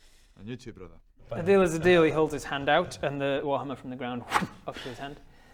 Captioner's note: pffpt